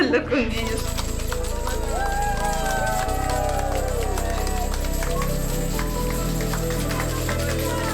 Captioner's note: clapping